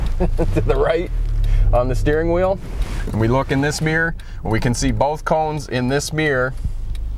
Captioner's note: chuckling